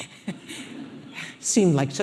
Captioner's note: audience laughing